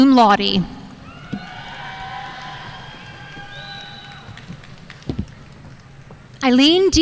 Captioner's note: audience cheering and applauding